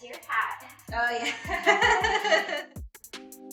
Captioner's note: customer laughs